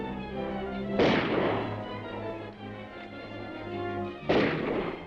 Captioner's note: dramatic music; guns firing; dramatic music